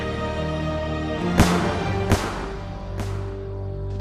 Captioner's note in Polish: nagły wystrzał